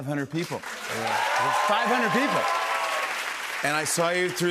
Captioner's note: cheers and applause